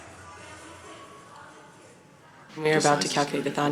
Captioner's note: cheering